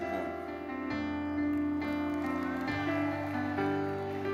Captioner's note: audience applauding; gentle music